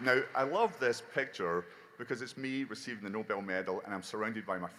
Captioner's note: applause